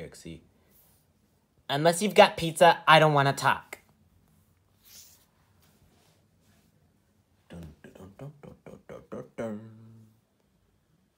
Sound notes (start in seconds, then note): 7.5 Foxy humming